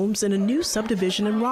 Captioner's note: nat pop of laughter